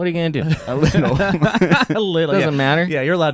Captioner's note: laughing